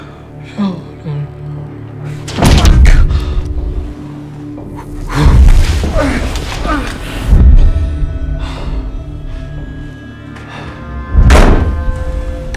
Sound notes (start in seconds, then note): 0.6 quietly; 2.4 thump; 4.3 panicked breathing